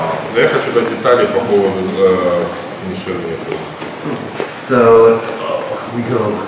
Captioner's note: speaking in a foreign language